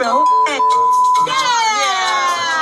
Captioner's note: beep